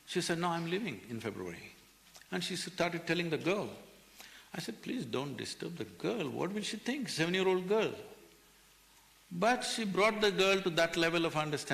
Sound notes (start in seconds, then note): none